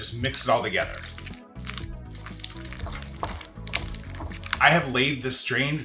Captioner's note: mixture sloshing